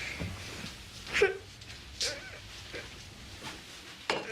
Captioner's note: sobbing